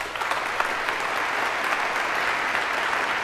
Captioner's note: applause